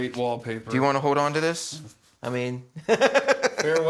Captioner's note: laughs